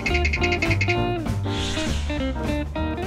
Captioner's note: blowing